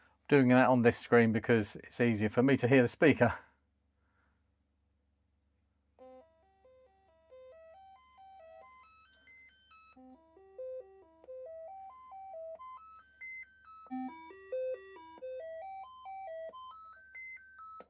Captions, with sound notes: I'm doing that on this screen because it's easier for me to hear the speaker. (Beeping)